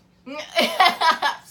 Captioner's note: laughs